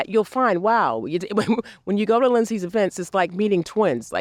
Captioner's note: laughs